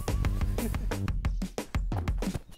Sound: laughing

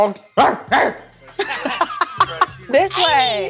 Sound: barks

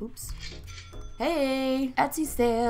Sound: ca-ching!

